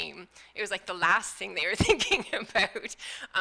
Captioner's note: laughing